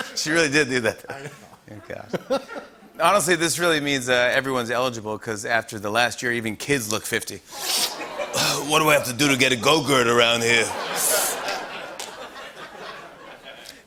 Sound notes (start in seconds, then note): 7.5 inhales sharply; 8.7 gravelly voice